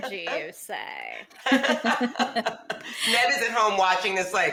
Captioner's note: women laughing